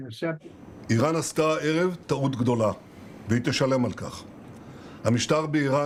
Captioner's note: Netanyahu speaking foreign language